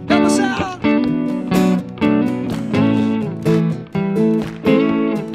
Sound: audience clapping

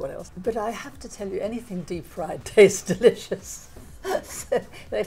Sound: laughing

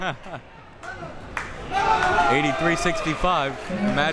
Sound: crowd members shouting

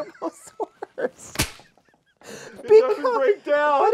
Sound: both laugh

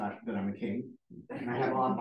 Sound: laughter

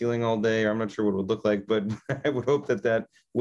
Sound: laughs

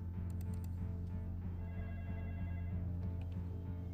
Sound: phone ringing

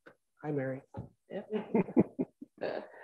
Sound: chuckling

